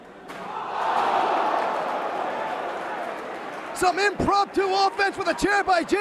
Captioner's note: crowd cheering